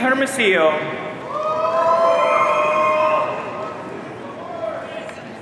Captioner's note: audience cheering